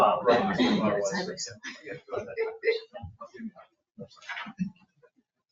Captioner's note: people chatter distantly